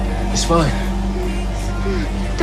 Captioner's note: gasping